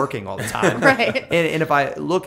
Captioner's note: laughter